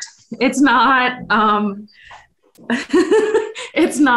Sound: laughs

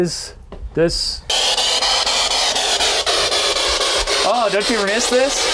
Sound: static buzzing

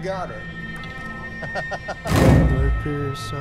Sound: laughing; dramatic percussive music

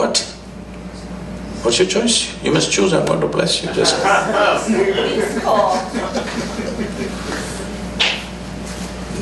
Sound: laughter

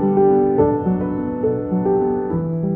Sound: none

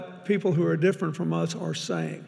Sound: none

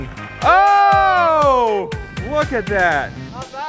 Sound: men cheering

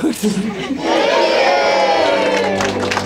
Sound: crowd; scattered laughter; applause

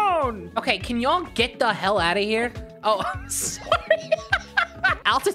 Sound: laughing

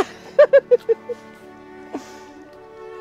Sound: laughing

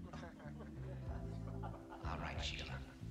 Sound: all chuckling

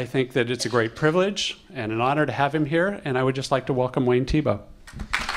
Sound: applause

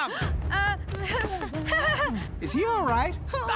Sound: nervous laugh

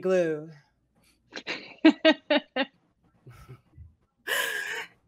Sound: group laughs

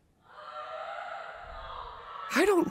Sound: Zooble screaming

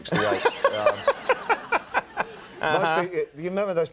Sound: Conan laughing

